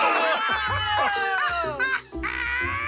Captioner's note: laughing